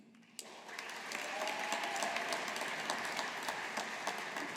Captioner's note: audience applauding